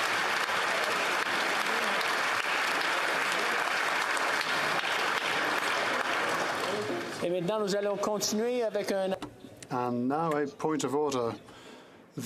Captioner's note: applause